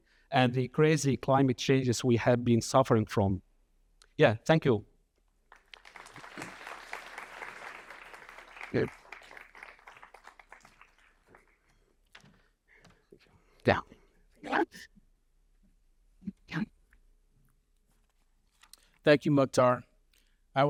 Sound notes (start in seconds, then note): 5.5 audience applauding